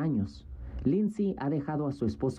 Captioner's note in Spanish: habla en ingés